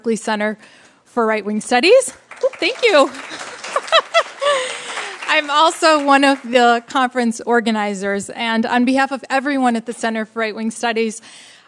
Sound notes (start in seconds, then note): 2.1 applause